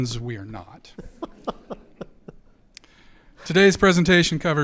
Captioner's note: audience laughs